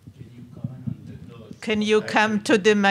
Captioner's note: man speaking faintly off mic